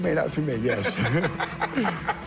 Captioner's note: laughs